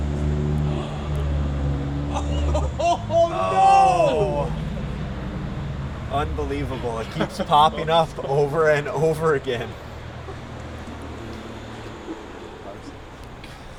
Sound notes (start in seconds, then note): 0.5 group gasps